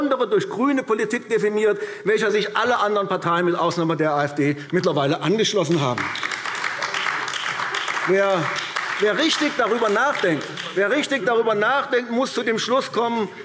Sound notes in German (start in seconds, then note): 5.6 Beifall AfD